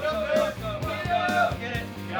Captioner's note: airmen hollering